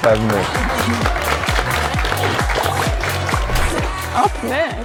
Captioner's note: applause